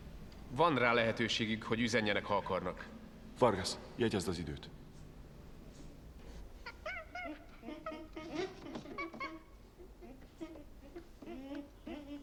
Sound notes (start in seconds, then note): 6.9 squealing